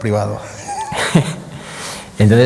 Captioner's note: laughs